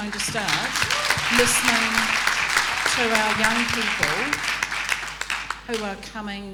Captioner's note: audience applauding